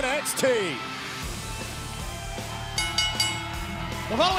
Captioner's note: bell ringing